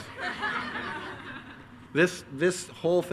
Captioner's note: attendees laugh